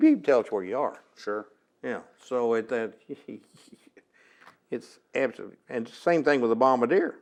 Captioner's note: laughs